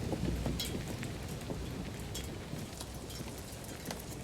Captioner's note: heavy wind sound continues